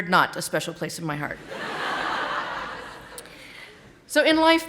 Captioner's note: audience laughing